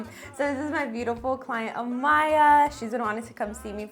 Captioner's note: laughs